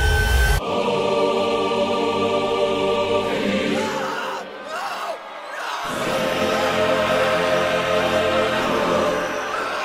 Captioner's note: screams in the background